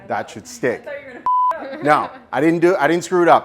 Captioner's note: beep